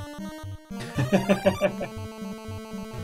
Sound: chuckles

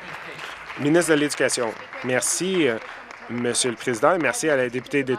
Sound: applause

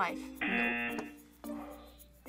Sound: buzzer

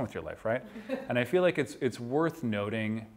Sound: class member laughing

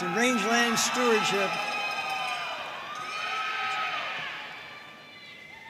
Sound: audience cheering and applauding

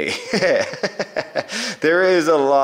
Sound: laughs

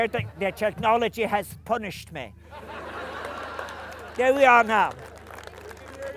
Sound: laughing

